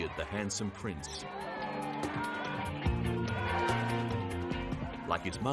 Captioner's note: crowd cheering